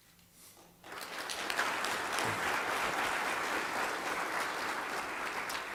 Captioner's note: applause